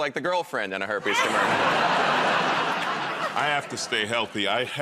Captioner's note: laughter